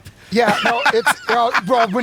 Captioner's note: laughs